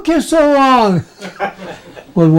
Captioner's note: laughing